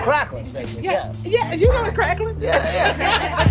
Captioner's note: laughing